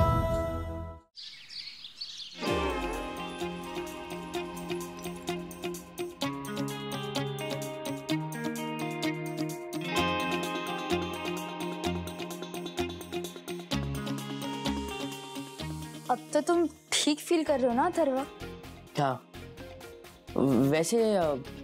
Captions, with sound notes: [birds chirping] [mellow music playing] Are you feeling all right now, Atharva? Yeah. Well,